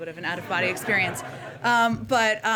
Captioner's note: laughter